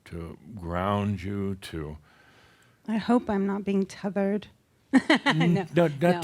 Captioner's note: she chuckles